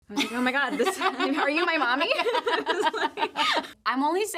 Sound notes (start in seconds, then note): 0.1 Brianne laughs; 2.5 both laugh